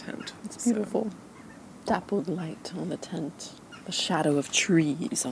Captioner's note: in a weird accent